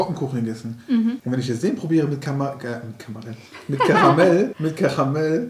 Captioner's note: laughing